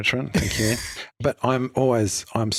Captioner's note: laughs